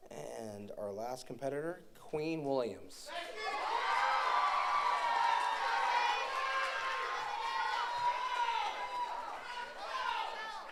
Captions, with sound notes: And our last competitor, Queen Williams. (audience cheers)